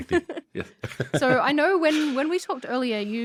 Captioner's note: both laugh